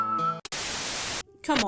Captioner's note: static